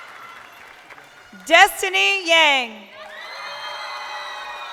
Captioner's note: crowd cheering